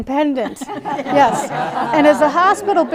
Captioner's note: laughs